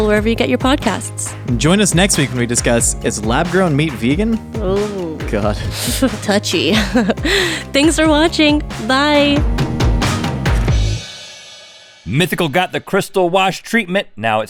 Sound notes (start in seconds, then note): 4.6 laughing